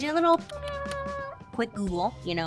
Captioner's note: keyboard tapping; high-pitch whining